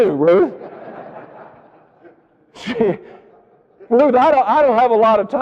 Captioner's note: audience laughing